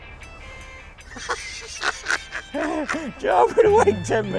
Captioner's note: laughs